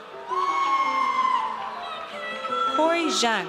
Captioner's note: audience cheers